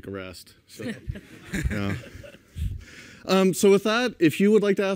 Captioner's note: laughter